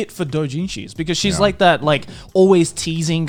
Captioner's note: laughs